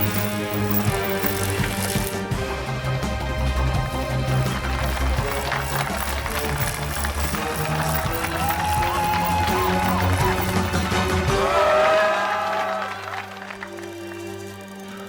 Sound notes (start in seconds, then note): 6.7 crowd cheering